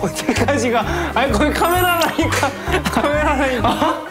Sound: haha

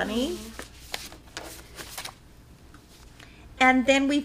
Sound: papers shuffling

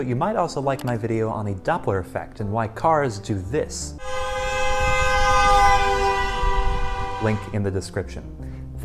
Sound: car Horn Doppler Effect

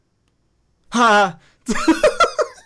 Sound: Hyram shouts; Hyram laughs

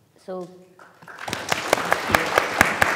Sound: students clapping

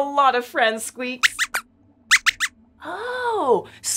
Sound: squeaks squeaks

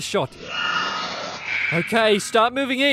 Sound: screams

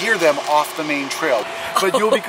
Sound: mum laughs

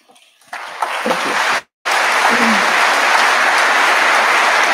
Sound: audience applauding

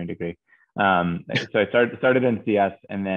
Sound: chuckles

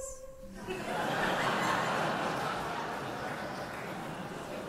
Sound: audience laughing

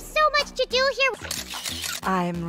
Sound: camera flashes

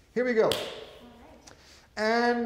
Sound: hands clap

